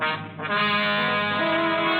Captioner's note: horn honking